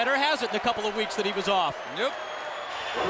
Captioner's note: crowd cheering